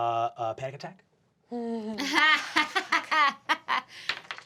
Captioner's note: laughing